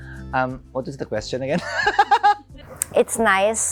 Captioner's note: laughs